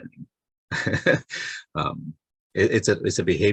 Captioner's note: chuckles